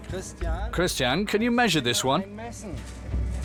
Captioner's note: in German